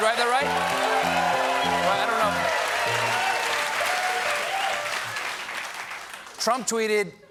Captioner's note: cheers and applause; piano riff